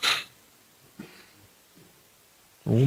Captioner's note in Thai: เสียงสูดหายใจ